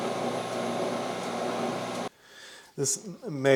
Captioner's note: face plate whirring